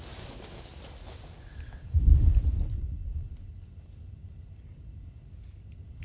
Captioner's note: whispering